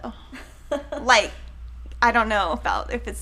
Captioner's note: chuckling